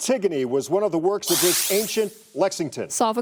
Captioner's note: buzzer